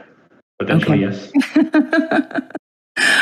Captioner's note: laugh